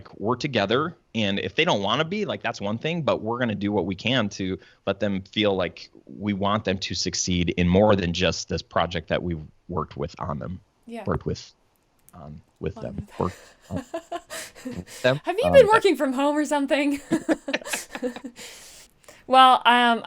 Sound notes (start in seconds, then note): 15.2 stumbles on words; 16.9 laughter